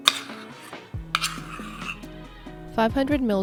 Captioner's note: scraping